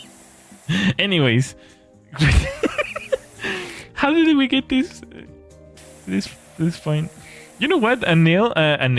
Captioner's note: laughter